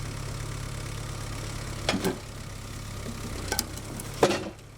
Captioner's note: engine revving